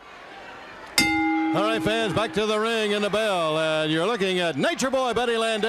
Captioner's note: bell ringing